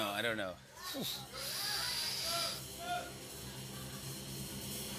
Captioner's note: inhales sharply